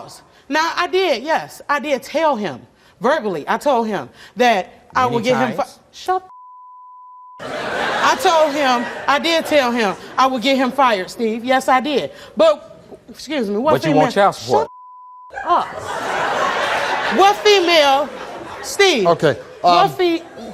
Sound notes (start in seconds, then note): 4.7 mumbles; 7.4 audience laughs; 15.4 audience laughs